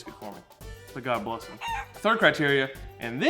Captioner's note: chicken squawking